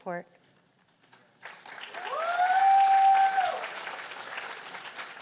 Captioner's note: cheers and applause